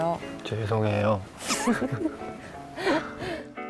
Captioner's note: laughing